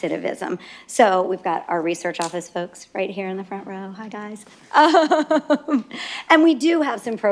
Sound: laughter

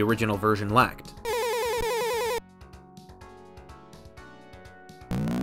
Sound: 8-bit sound effects from the game

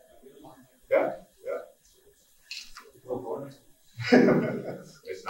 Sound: someone speaking off mic; laughing

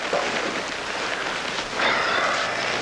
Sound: sighs

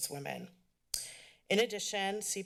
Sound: clicks tongue

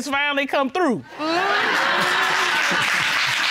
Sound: audience laughing, applauding

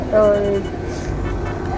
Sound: sniff

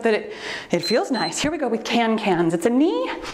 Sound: timer beeps

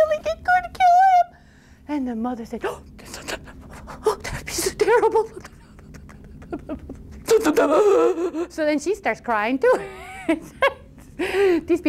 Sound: sob sob sob; laughs

